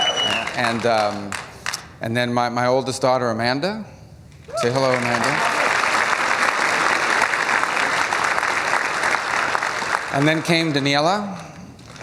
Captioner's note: cheers; applause; applause